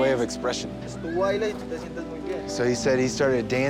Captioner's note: speaking Spanish